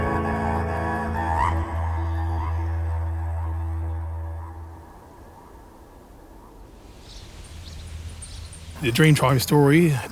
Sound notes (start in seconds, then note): 0.0 didgeridoo humming; 7.3 birds chirping